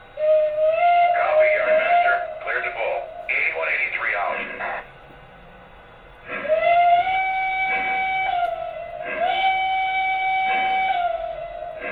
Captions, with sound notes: (whistle toots) - [Voiceover] Clear to pull, 8183 out. (engine chugs slowly)